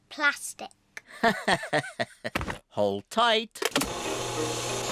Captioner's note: laughs